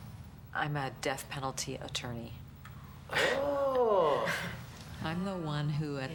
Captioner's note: 紧张地笑起来; chuckles Nervously